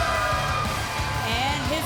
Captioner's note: cheers & applause